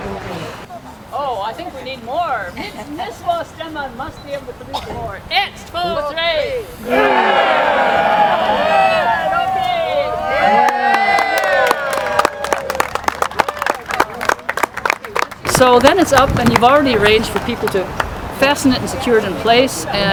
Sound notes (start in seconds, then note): 6.8 grunting as they raise the pole; 9.9 crowd cheers and applauds